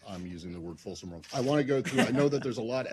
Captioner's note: laughter